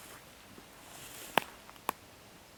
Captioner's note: rustles